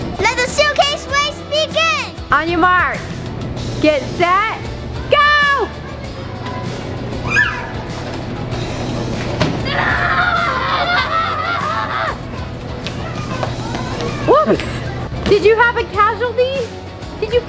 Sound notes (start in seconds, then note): 7.2 squealing; 9.6 kids screaming